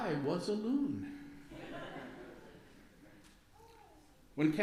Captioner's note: light laughter from congregation